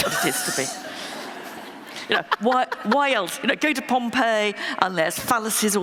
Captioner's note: laughter